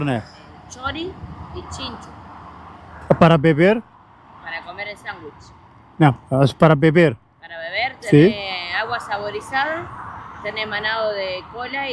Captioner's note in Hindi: स्पेनिश में बोलते हुए